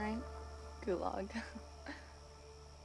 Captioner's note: chuckles